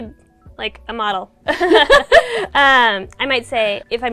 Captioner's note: laughing